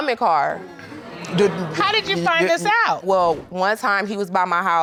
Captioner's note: crowd gasping